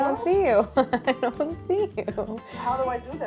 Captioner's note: Claire chuckles